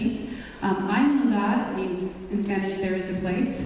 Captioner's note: speaking in foreign language